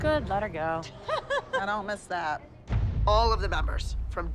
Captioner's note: laughter